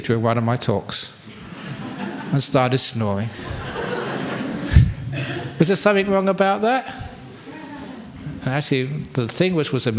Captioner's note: laughter